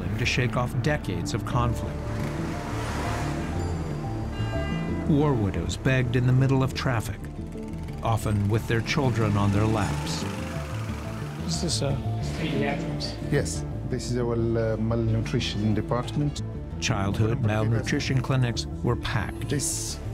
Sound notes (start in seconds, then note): 1.6 horns honking